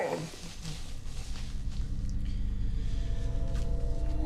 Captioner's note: Scott groans